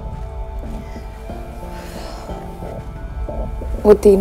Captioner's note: Gauravi sighs